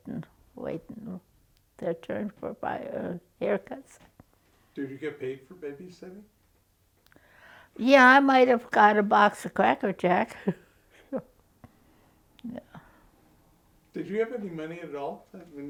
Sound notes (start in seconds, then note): 10.9 chuckles